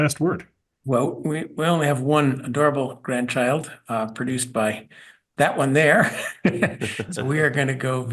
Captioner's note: laugh